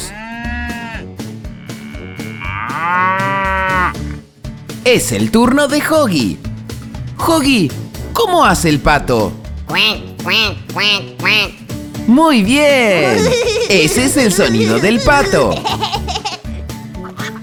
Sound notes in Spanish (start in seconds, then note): 1.4 Sonido de vaca; 9.6 Sonido de pato; 13.0 Risas